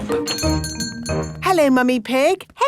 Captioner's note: doorbell chiming